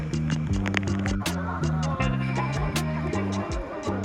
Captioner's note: people chatting